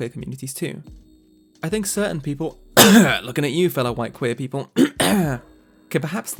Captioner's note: cough